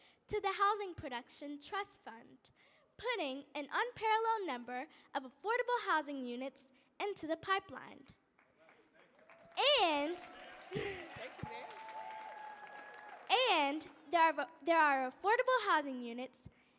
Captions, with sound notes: to the Housing Production Trust Fund, putting an unparalleled number of affordable housing units into the pipeline. (audience clapping) And there are affordable housing units